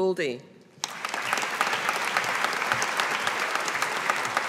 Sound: audience applauding

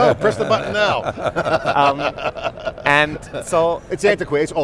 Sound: laughs

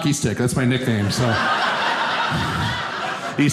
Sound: audience laughing

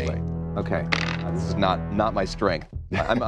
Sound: dice clatter

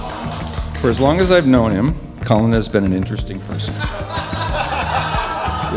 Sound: men laughing

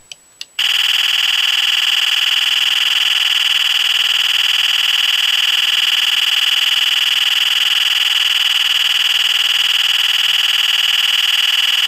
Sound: gunfire sound effect

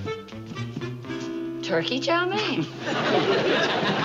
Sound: Don laughs

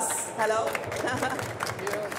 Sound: chuckles

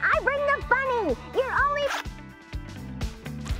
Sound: zipping

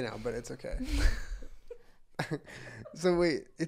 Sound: laughter

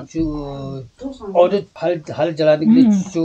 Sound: local language

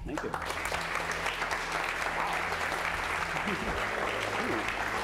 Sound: applause

